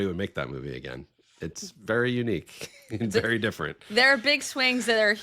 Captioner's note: chuckling